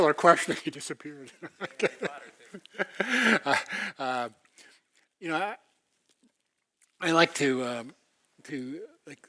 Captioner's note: laugh